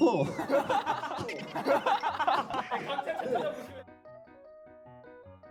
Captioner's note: they just laugh at the sloppy PPT